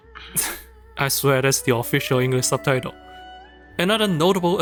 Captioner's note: chuckle